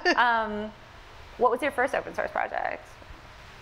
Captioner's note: laughs